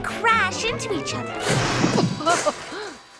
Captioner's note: laughs